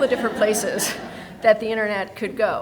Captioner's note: people laughing